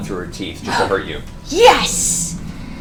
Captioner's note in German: japst